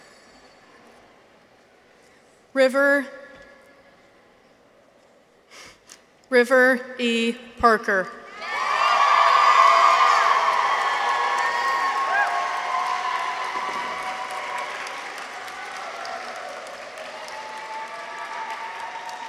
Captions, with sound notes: River E. Parker. -(people cheer) -(audience applauds)